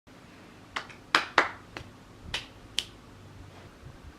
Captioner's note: clap clap clap clap snap snap